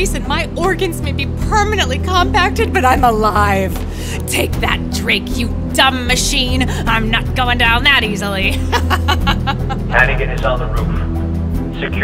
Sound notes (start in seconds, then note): 8.4 laughs